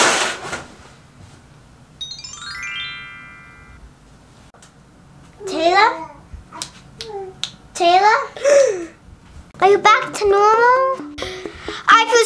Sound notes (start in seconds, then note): 6.6 snaps; 8.7 gasps